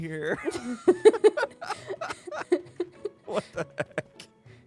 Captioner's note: laughter